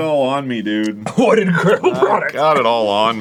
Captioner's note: coughing